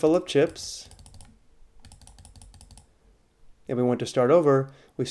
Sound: fast, repetitive mouse clicking

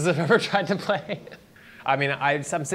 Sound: laughs

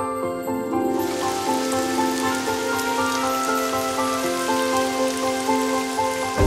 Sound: and with the perfect rain sound ASMR

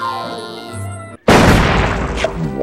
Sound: crashing

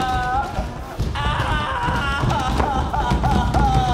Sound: sobbing

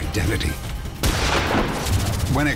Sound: gunshot

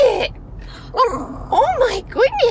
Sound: grumble

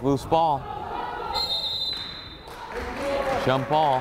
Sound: whistle blows; players applauding

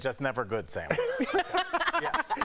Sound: laughter

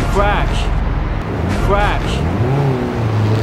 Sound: crash

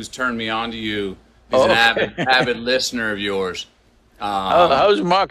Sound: laughs

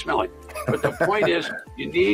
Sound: laughs

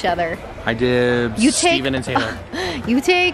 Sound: laughs

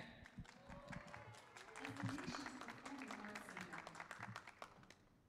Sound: audience clapping

